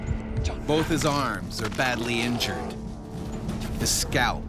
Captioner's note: voiceover